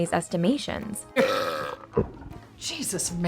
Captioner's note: burps